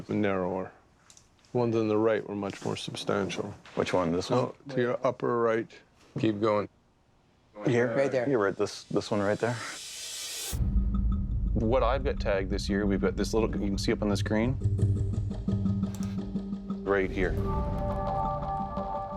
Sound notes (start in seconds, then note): none